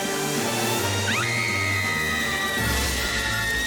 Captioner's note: screaming